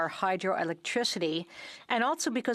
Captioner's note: speaking French